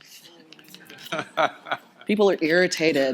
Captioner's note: audience laughter